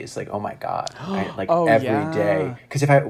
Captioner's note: gasps